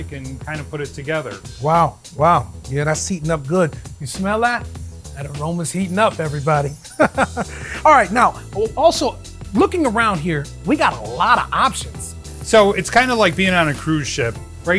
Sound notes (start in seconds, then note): 6.8 laughs